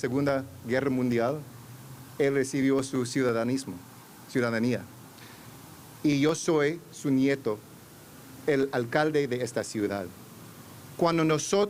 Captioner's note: remarks in spanish